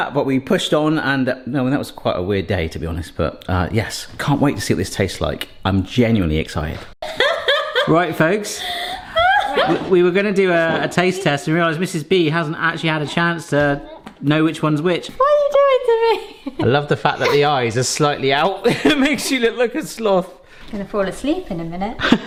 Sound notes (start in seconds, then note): 8.8 laughing; 15.8 laughing